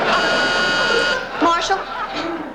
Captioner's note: doorbell buzzes